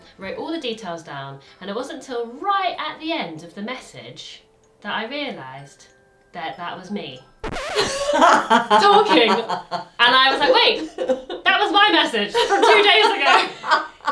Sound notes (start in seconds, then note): 7.4 record scratches; 7.7 laughs